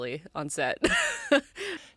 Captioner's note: laughs